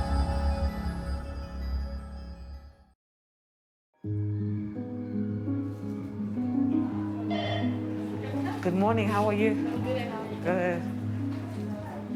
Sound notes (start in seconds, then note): 4.0 gentle music; 5.7 indistinct chatter